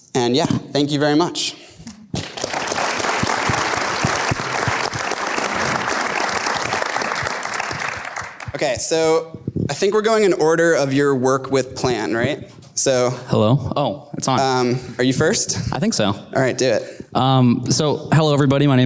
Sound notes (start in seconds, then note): 2.1 applause